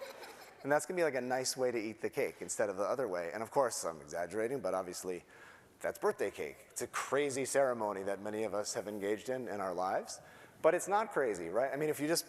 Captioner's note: laughter